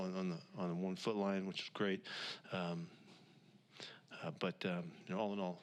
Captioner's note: takes a breath